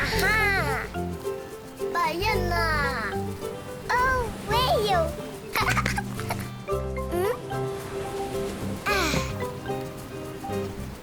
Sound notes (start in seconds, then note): 2.0 speaking foreign language; 5.5 Fifi laughing and clapping